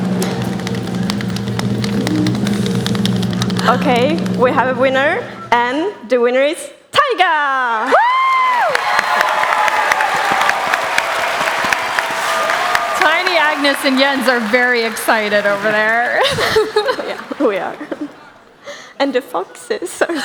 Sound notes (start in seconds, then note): 0.0 drum roll; 9.6 applause